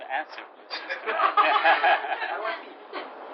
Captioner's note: laughter